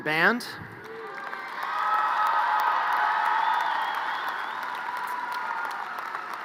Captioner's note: audience cheers and applause